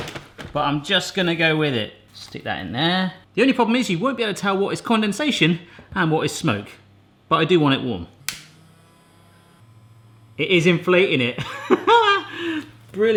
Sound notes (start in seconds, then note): 8.2 Smoking Gun buzzing; 8.3 lighter clicking; 11.4 laughing